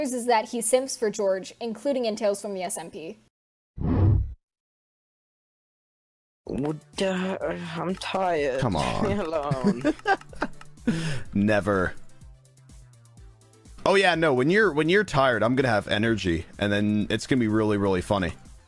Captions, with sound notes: is that he simps for george including in tales from the smp [tired noises] i'm tired, leave me alone c'mon *laughs* never! oh yeah no, when you're tired, i'm gonna have energy and then it's gonna be really really funny